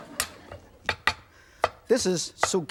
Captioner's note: audience laughs; knife chops